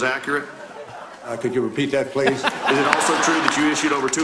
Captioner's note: laughter